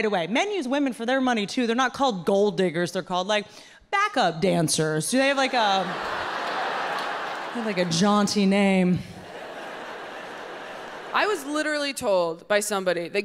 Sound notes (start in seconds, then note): 5.2 audience laughing